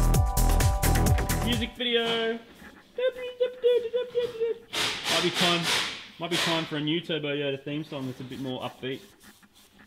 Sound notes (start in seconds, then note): 5.2 air-powered rattle gun